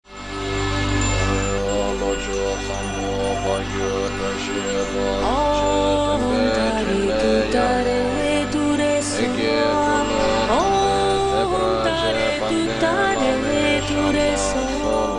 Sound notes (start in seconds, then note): 8.4 prayers